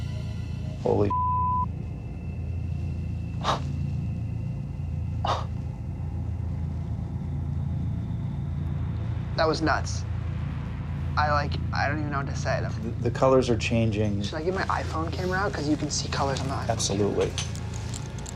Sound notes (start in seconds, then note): 3.1 chuckles